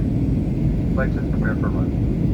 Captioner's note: cockpit announcement